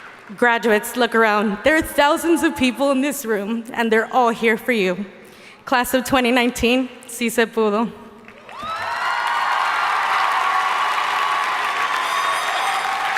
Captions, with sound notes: Graduates, look around, there are thousands of people in this room, and they're all here for you. Class of 2019, (speaking in foreign language). (audience cheering and applauding)